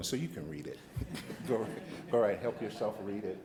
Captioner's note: light laughter